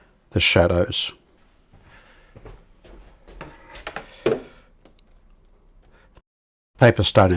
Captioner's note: silence